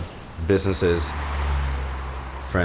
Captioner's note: car passing